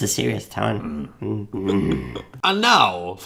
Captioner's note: growling